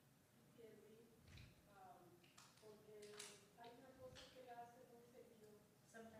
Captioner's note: woman speaks in foreign language